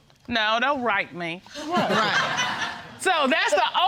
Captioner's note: audience laughing